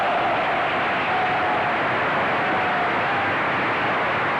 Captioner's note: cheering